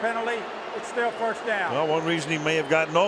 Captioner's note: booing